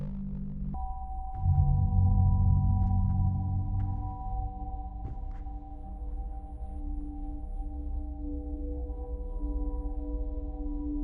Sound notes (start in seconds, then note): 0.0 soft ominous music; 0.6 shoes shuffling